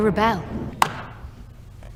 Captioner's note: clap